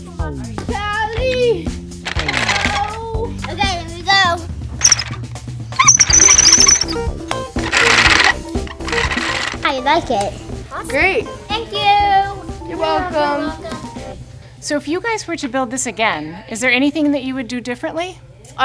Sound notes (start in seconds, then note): 4.8 squeaking